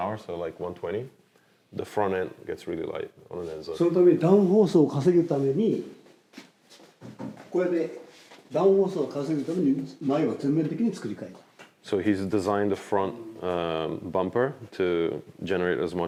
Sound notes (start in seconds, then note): 4.0 speaking Japanese